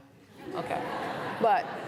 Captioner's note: laughter